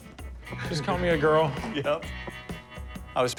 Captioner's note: laughing